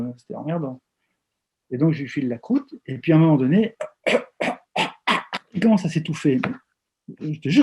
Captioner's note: cough, cough